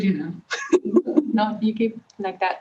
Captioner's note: laughing